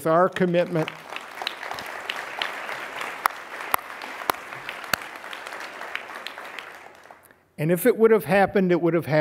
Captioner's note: applause